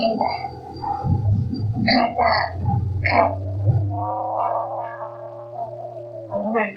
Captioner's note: car noises